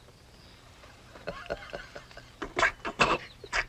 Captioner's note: guffaws